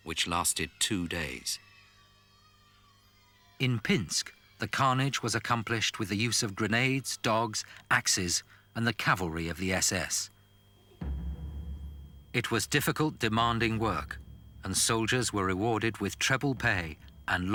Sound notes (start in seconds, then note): 2.1 children yelling; 10.9 dramatic percussive music